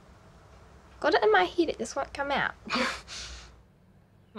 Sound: laughs

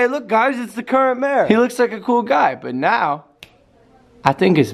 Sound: finger snap

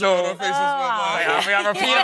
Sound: laughing

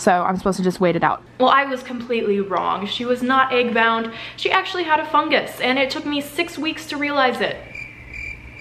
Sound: cricket noises

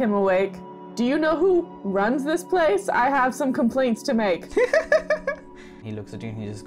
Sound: laughter

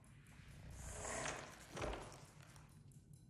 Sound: crackling

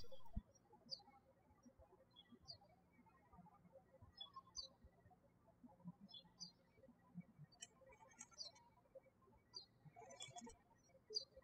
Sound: birds chirping

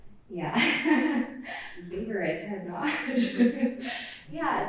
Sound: laughs

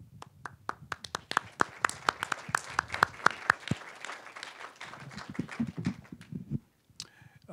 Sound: applause

